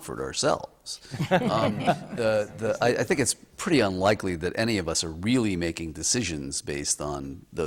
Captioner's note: laughter